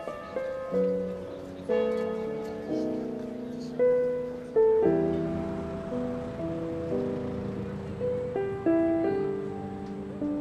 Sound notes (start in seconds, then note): 0.7 bell ringing